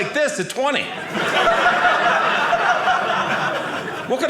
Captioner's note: audience laughing